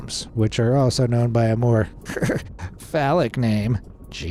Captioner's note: snigger